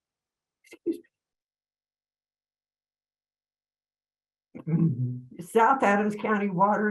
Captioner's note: clears throat